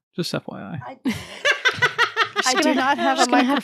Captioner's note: laughing